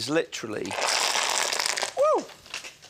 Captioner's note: kale sizzling